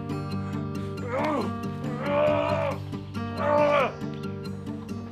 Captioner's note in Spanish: gruñe